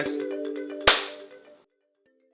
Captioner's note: clap